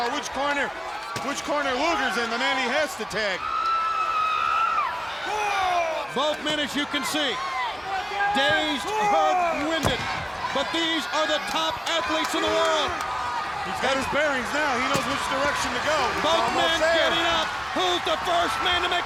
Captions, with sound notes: Which corner Luger's in, the man he has to tag. (crowd clamoring) Four. Both men, as you can see, dazed, hurt, and winded. But these are the top athletes in the world. He's got his bearings now he knows which direction to go. Both men getting up, who's the first man